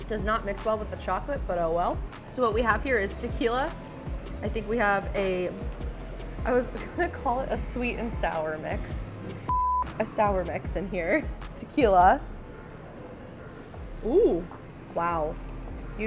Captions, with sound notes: Does not mix well with the chocolate, but oh, well, so what we have here is tequila. I think we have a, I was gonna call it a sweet and sour mix. (beep)A sour mix in here, tequila. Ooh, wow.